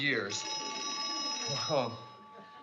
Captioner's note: phone rings